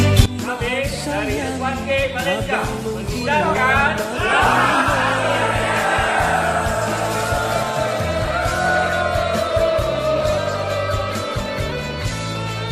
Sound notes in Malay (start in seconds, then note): 6.2 Tepukan